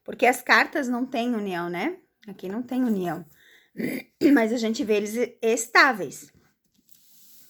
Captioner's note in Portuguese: limpando a garganta